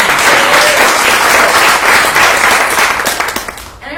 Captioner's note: applause